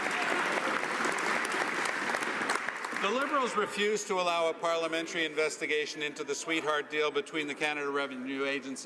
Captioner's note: some Applause